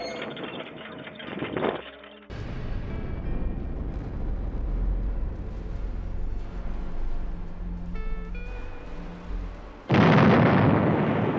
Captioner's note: sfx: machines break